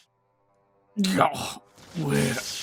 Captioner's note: moans in pain